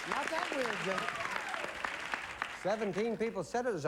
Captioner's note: applause